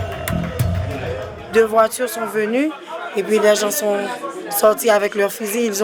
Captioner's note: French spoken audio